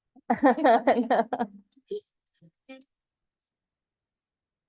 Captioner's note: laughter